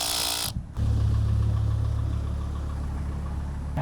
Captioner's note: motor humming